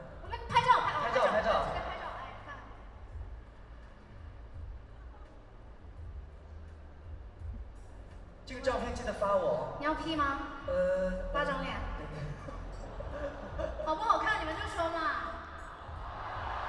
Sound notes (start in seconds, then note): 12.2 laughs